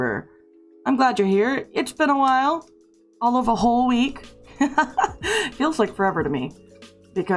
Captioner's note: lad laugh